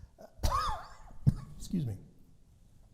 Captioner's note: coughing